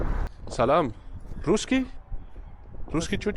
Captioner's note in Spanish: Habla